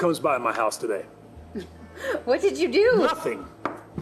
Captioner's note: chuckles